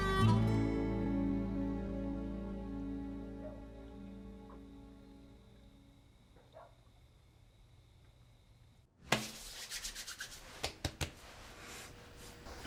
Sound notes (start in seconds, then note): 0.0 harmonica music; 3.3 dog barking outside; 9.1 rubbing, patting sounds